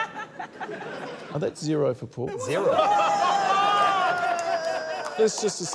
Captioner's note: laughter; all exclaim